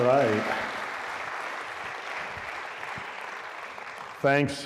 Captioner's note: applause